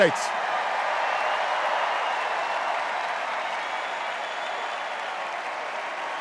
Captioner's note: extended cheers and applause